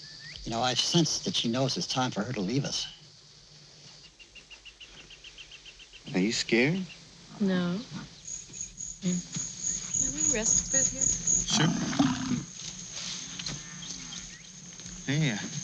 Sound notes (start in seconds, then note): 13.0 insects chirping